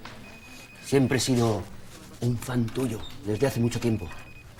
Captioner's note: whispering